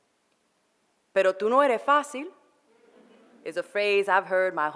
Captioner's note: foreign language